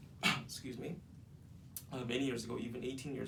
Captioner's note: coughing